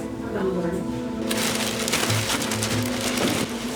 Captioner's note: rustling